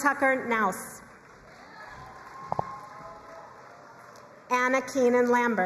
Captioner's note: crowd cheering and applauding